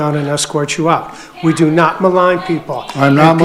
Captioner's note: group shouting